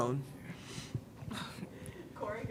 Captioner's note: sighs sadly; faintly speaking